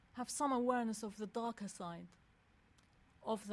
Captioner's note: none